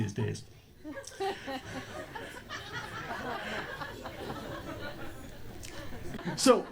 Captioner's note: audience laughter